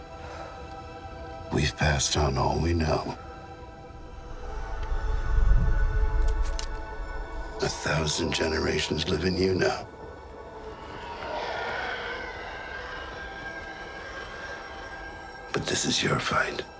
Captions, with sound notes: - We've passed on all we know. (clicking) A thousand generations live in you now. (roaring) But this is your fight.